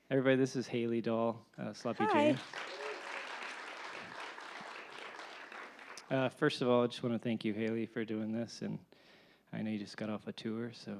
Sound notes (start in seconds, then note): 1.9 audience applauding